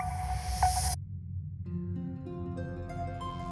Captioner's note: pleasant morning alarm